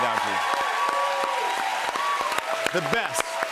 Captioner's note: cheers and applause